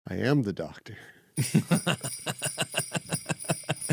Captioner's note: both laughing